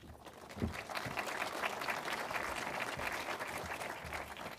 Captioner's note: audience claps